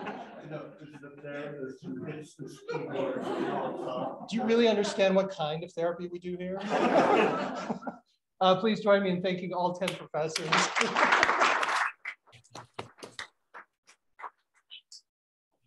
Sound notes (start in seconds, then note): 0.0 laughter; 6.5 laughter; 10.4 applause